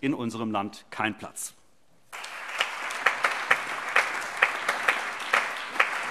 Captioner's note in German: Allgemeiner Beifall